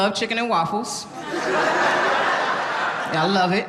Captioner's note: audience laughing